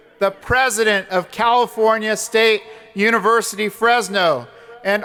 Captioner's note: none